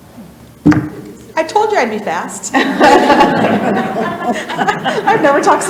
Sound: people laugh

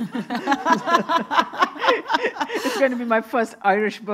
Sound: everyone laughing

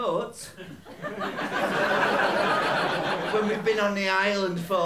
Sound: laughter

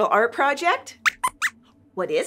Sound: squeaks squeaks

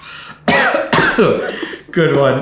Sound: chuckles; coughs

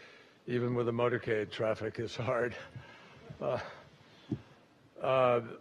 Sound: chuckles

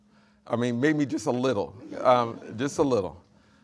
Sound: audience laughing

